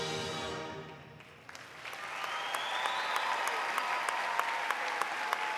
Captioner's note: audience applauding